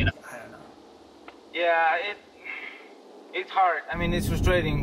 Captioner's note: on phone